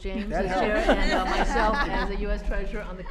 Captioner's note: laughter